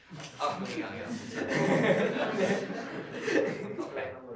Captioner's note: laughter